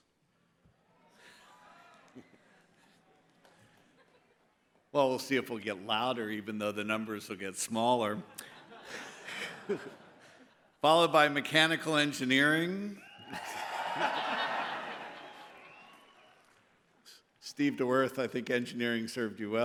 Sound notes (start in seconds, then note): 8.2 laughter; 12.9 cheers